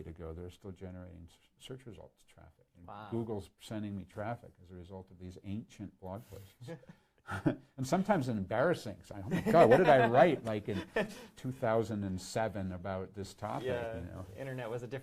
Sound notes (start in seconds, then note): 6.8 laughs